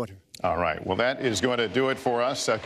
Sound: applause

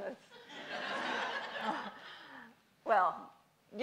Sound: audience laughs

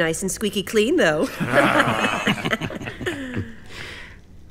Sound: crowd laughs

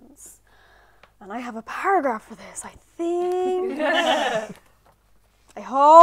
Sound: laughter

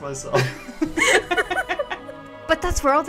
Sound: laughter

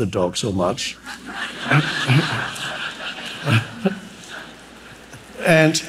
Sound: audience laughing

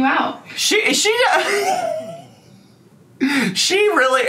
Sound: laughing

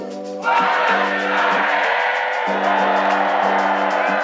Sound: students cheering

